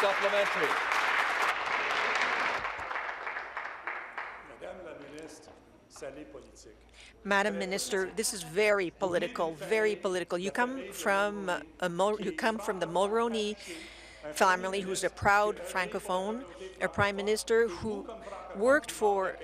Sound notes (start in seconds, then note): 0.0 applause; 8.3 speaking in French